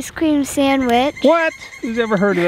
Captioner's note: bird cooing